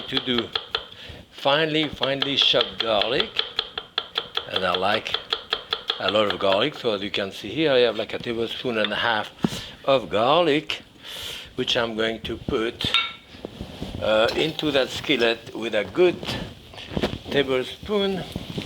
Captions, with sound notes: to do finely, finely chopped garlic. (knife tapping) And I like a lot of garlic. So as you can see here, I have like a tablespoon and a half of garlic, which I'm going to put into that skillet with a good tablespoon,